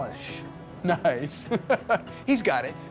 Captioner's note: chuckling